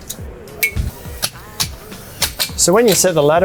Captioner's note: ladder clinking